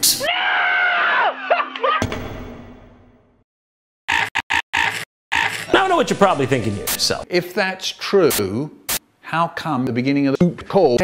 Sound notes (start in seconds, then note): 1.3 laughing; 5.4 Static sound made with jontron echs